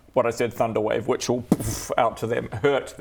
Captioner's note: boof